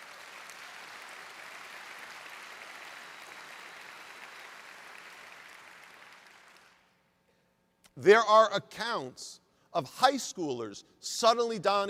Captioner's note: applause